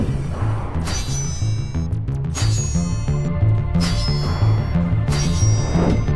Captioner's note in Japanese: 金属音